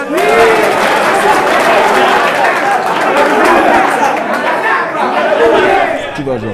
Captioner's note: cheers